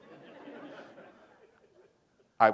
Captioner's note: laughter